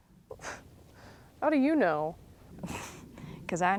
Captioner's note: scoffs; chuckles